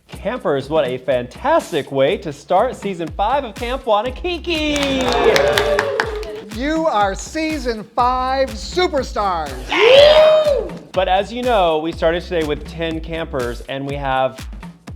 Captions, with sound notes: - Campers, what a fantastic way to start season five of "Camp Wannakiki." (campers clapping) - You are season five superstars. (campers cheering) - But as you know, we started today with 10 campers, and we have...